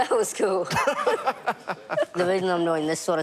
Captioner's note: laughs